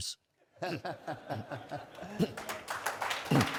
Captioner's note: audience laughing; audience applauding